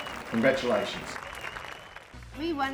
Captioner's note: crowd clapping